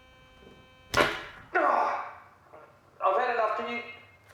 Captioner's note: grunting